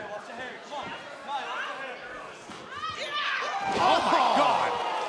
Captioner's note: crowd chatter